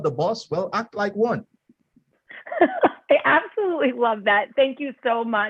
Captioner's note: laughter